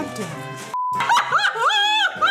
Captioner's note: beep; all laughing